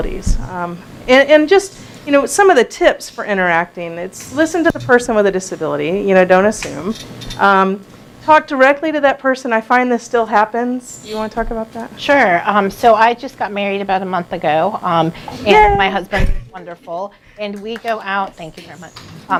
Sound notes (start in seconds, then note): 17.5 clapping